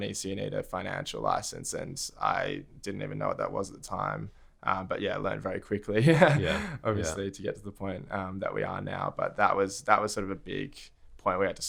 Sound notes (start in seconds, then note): 6.0 laughs